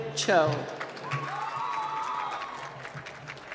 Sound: applause

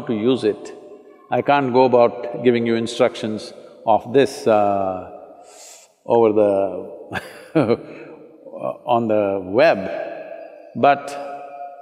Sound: laughs

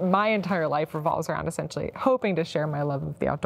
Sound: none

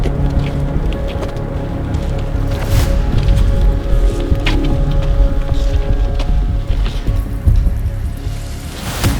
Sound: sound of footsteps; tense music playing

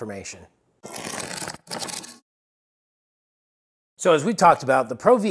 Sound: cardboard ripping

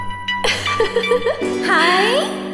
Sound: laughs

